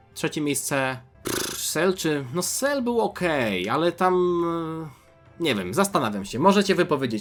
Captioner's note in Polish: parsknięcie